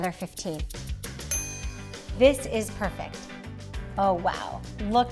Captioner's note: chime dings